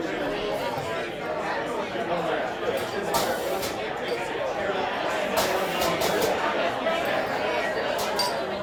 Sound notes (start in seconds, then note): 3.3 high-pressure spraying noise; 7.3 general chatter